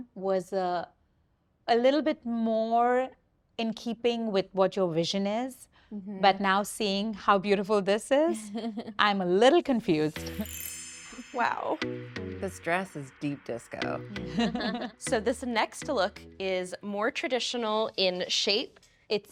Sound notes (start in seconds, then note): 10.5 gentle bright music; 14.2 group laughing